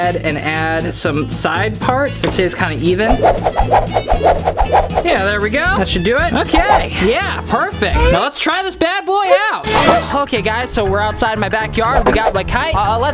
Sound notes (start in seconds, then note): 2.2 upbeat music; 3.1 whirring sound